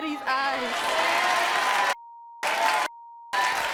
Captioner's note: applause